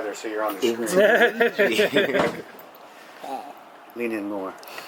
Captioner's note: wicked chuckling